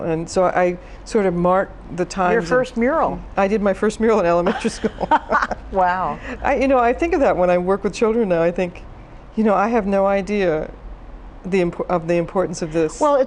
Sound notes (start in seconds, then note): 4.4 laughs